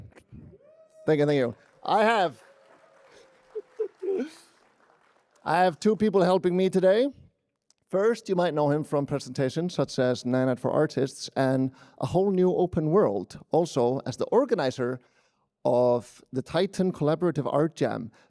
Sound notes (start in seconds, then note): 1.0 applause